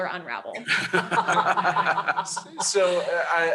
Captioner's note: laughter